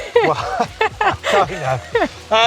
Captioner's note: laughing